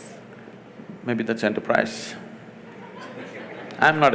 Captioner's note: laughter